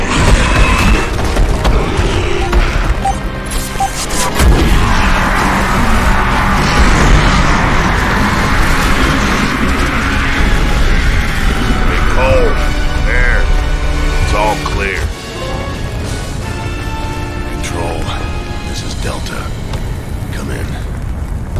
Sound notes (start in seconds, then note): 0.2 monster growling; 2.3 weapon beeping; 4.4 gun booming